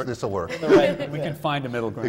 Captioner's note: laughter